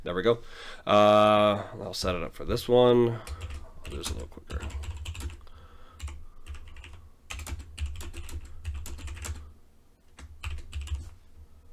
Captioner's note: speaking to himself